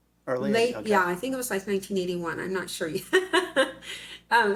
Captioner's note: laughs